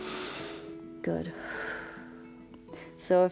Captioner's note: exhales; inhales